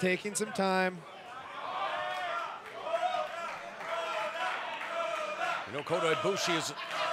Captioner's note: applause